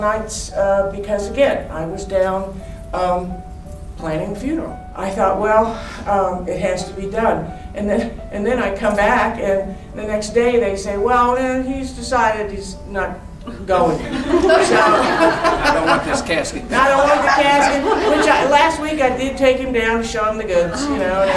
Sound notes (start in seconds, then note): 13.5 crowd laughing